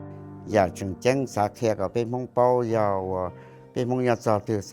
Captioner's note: speaking Hmong